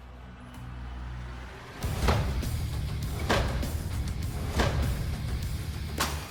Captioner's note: cracking